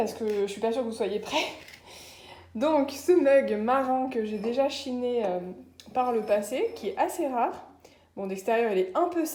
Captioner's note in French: rire